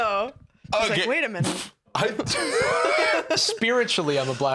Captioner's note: laughs